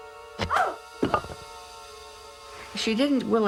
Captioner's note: scared